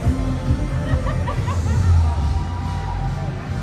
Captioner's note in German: Lachen, Jubeln